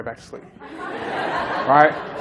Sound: laughter

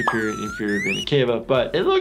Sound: tube squeaks

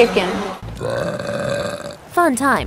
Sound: belch

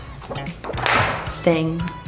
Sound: cover falls on floor

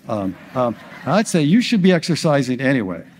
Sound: audience laughs

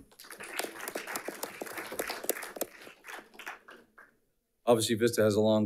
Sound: audience applauding

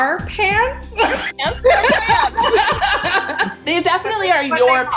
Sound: laughing

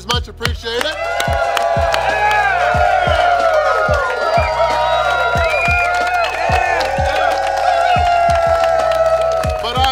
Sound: cheering & Clapping

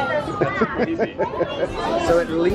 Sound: laughing

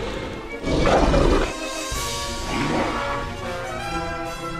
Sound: carnotaurus Sounds

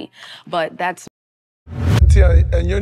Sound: wind whooshes

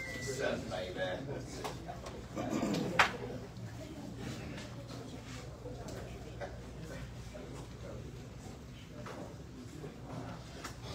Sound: indistinct chatter

